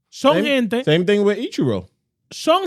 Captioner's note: speaking In Foreign Language